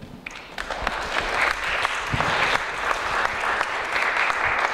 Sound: audience applauds

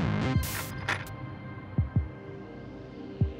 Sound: static

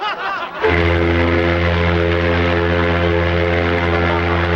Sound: men laughing; ship horn blaring

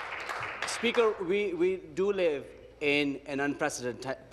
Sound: applause

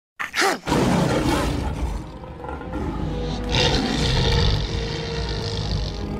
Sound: growl; roaring

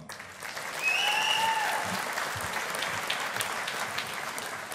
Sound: audience applauding

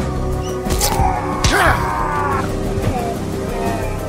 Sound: fabric rips; men groaning

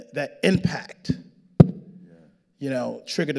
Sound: hits microphone

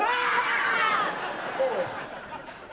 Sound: all yelling

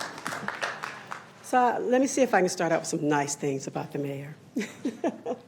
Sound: applause

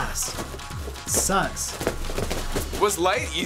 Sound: stomping on mat

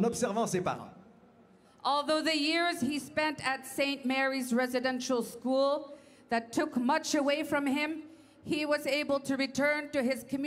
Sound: speaking French

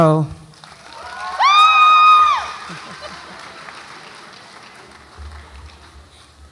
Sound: audience applauds and cheers

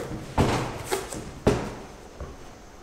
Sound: thud... thud

